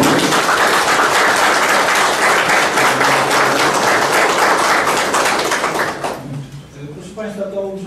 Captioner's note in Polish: oklaski